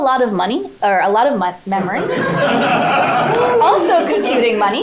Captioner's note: crowd laughs